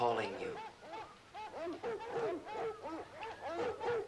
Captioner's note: barking continues